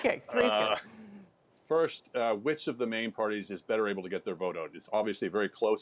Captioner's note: laughter